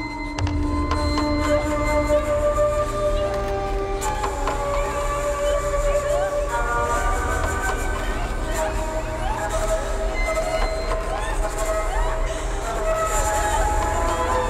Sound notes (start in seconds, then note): 1.6 unsettling music intensifying; 8.0 woman screaming